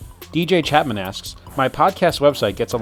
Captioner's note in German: Voice-over